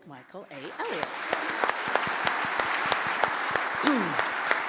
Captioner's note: audience applauds